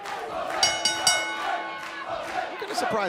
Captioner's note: bell ringing